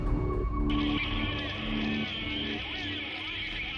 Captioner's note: man on radio